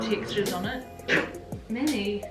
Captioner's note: dog snorts